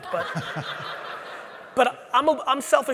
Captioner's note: audience laughing